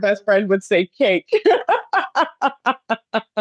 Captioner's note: laughs